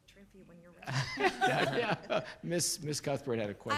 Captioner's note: laughs